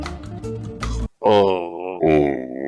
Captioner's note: gargles